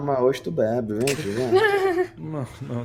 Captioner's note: laughs